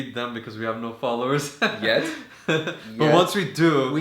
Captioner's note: haha